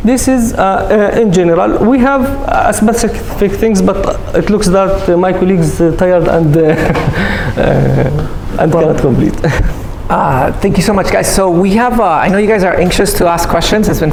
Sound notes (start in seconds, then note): 6.3 laughs